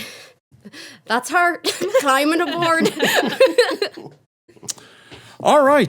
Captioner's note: everyone laughing